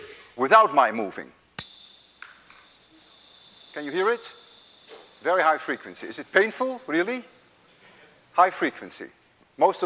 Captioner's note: tuning fork produces very high pitched tone